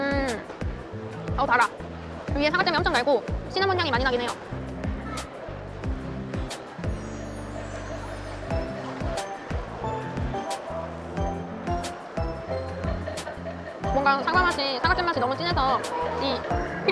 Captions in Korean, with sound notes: 시나몬향 솔솔 납니다. 위에 가득 얹어진 사과쨈이 매우 단편입니다. 패스츄리결은 사실 잘 모르겠습니다..(웃음) 사과잼맛이 진해서 필링맛이 하나도 안느껴집니다. 버터풍미도 전혀 안납니다.